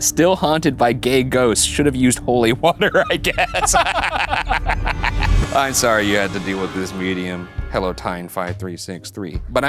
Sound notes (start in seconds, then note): 2.5 laughing